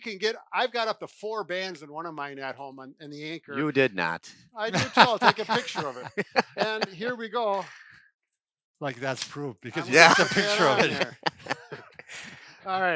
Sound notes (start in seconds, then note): 4.7 laughs